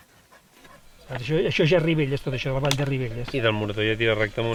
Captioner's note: speaking in Catalan